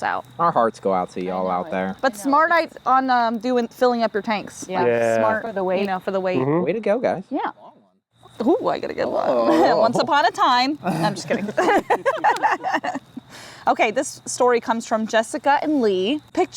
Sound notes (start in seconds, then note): 10.8 group laughs